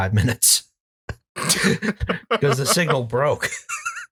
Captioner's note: laughter; laughter intensifies